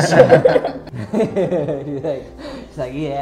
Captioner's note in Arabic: يضحك